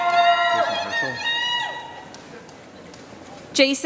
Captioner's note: applause